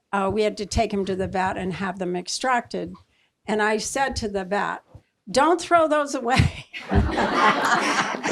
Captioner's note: laughter